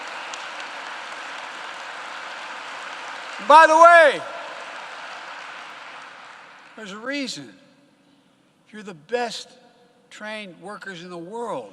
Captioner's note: applause